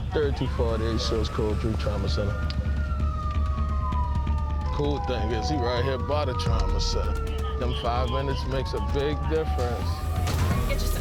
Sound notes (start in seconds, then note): 2.3 sirens wailing